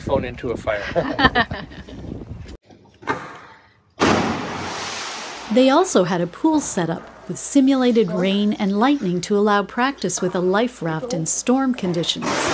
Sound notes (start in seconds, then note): 0.9 laughs; 4.1 water splashes; 12.3 raft thuds